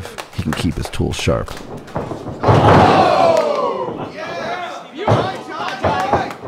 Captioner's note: audience cheering